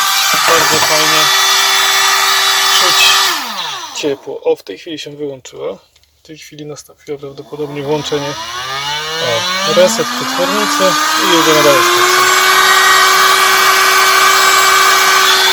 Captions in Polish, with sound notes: w tej chwili zresetowała się przetwornica [ponownie się włączyła suszarka]